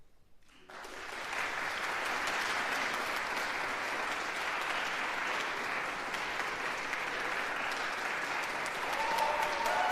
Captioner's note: applause